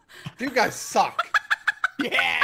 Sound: laughing

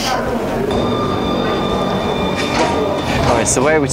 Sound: tram passing nearby

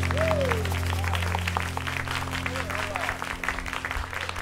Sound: cheers and applause

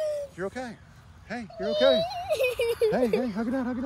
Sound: crying

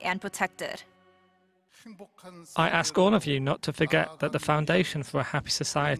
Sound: Korean

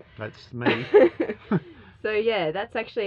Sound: laughing

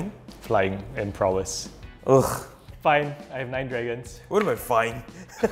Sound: scoffs; players laughing

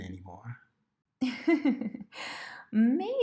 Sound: mommy chuckles

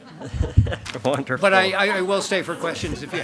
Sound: chuckles

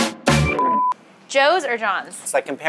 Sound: beeping

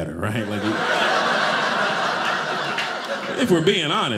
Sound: audience laughing

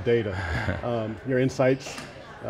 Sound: laughs

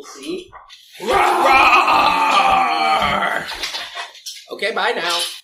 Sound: both making dinosaur roaring sound: ROAAAAR!

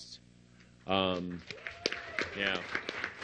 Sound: applause

